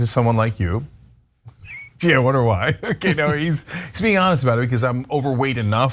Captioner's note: laugh